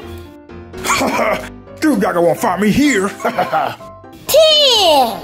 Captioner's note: laughs